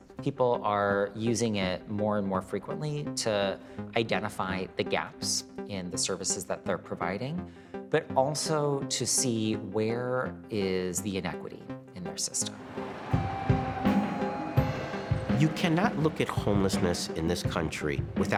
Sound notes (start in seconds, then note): 12.5 traffic whoosing